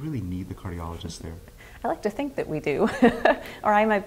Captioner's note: laughs